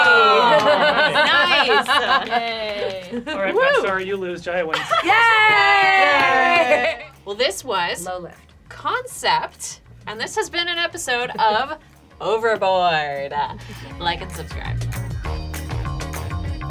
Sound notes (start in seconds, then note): 0.2 laughing; 4.9 all exclaiming yayyyyyyyy; 15.0 upbeat music